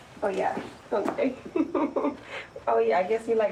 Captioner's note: chuckles